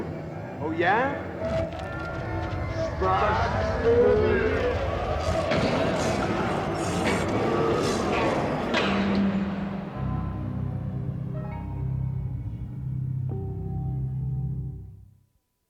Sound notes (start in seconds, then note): 1.4 shuffling sounds; 5.7 echoing, slowed-down metal crash sounds, dog barking